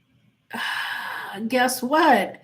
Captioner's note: sighs